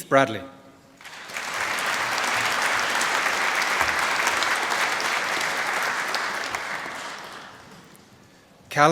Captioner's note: applause